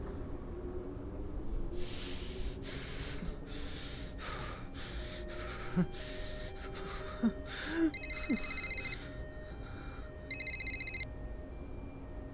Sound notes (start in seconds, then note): 2.9 ambulance hooter; 7.6 phone ringing